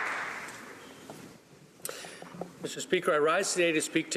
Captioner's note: applause